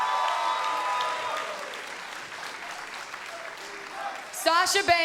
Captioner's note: cheers and applause